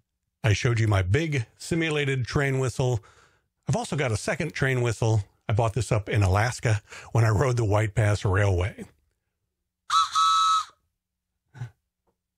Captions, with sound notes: I showed you my big simulated train whistle... I've also got a second train whistle. I bought this up in Alaska when I rode the White Pass railway. (toot toot)